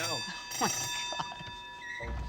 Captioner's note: bell rings